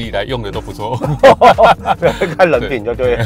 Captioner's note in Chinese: 哈哈哈